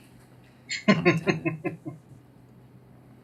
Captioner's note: chuckling